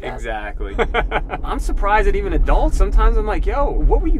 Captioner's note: laughing